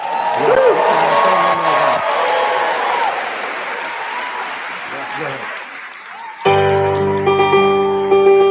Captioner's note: cheers and applause